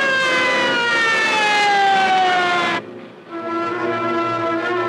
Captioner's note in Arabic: صافرات الإنذار تصرخ